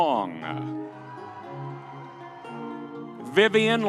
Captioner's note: audience cheering